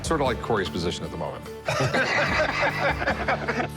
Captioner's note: laughter